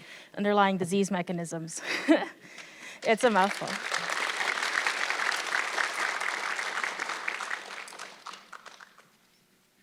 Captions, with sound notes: "Underlying Disease Mechanisms". (chuckling) It's a mouthful. (audience clapping)